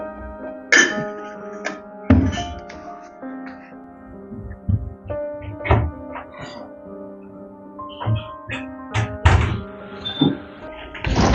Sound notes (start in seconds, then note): 5.3 door opens; 8.9 door closes